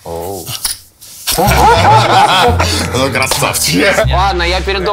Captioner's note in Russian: все смеются